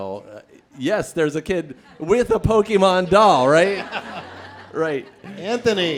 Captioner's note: laughing